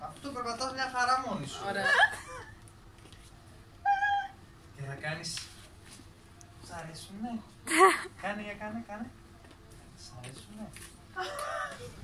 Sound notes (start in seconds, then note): 1.8 laughter